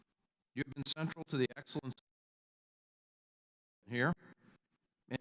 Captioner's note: audio cuts out